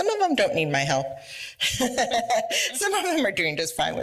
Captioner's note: laughs